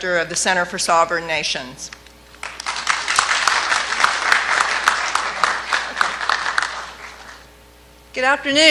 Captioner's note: clapping